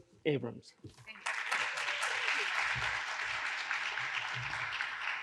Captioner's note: audience applauds